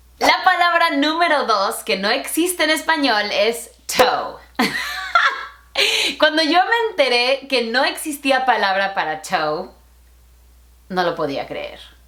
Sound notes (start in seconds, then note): 4.6 laughter